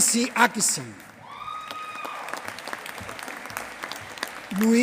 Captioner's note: applause